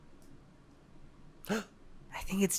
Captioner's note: gasp